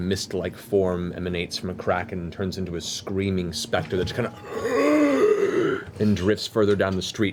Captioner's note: gasping